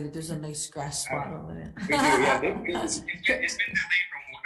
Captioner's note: laughing